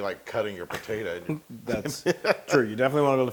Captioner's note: laugh